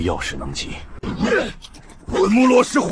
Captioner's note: cough